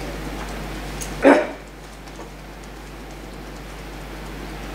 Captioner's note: fingers tapping